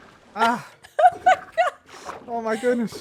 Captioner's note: laughs